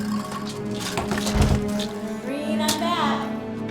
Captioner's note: bangs